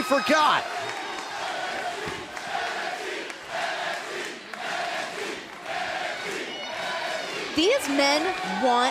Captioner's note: crowd cheering